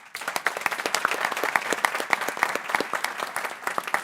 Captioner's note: people clapping